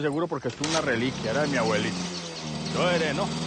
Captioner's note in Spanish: Motor en marcha